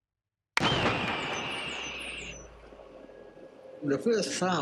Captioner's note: shooting sound; birds scattering